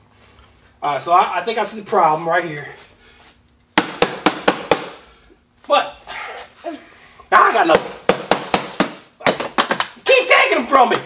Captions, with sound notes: So I think I see the problem right here. (hammer banging) What? I got another one. (hammer banging) Keep taking them from me!